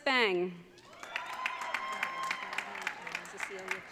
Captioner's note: audience cheering